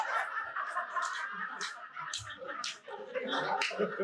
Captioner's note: audience laughing